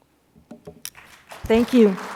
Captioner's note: applause